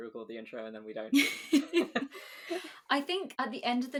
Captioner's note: laughs